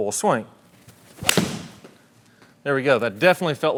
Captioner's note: golf club thudding